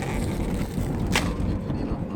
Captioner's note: pop